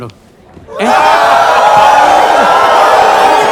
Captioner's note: booing